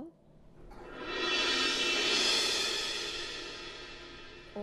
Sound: steady resonant crashing

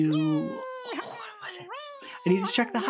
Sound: critters yelling gleefully

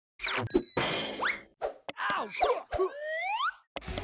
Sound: Man vs. YouTube Intro Noises

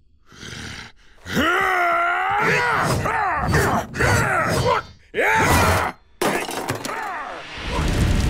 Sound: grunting

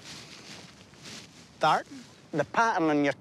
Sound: accented

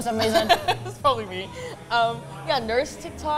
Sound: laughs

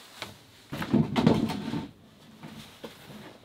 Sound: thudding

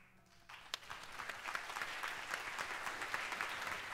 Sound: audience applauds

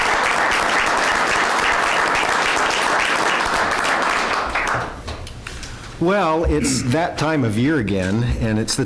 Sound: applause

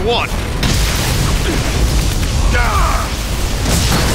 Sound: lightning zapping

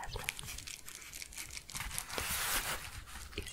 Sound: gentle crinkling

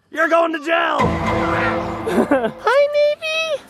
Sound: Law and Order "dun dun" sound effect

